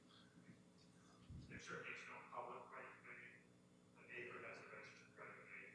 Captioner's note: man speaking off mic